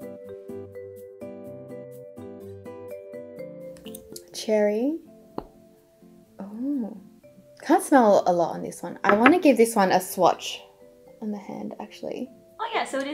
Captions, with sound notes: (bright gentle music) Cherry. (bottle pops) Oh. Can't smell a lot on this one. I wanna give this one a swatch on the hand actually.